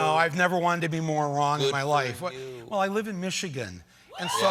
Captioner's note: cheers